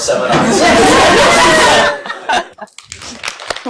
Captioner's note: laughter; applause